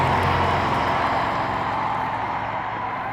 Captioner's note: cheers and applause; applause fades